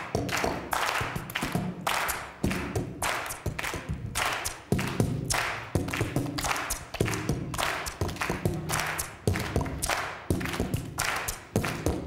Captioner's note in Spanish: Palmadas al compás